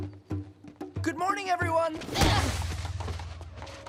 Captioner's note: grunting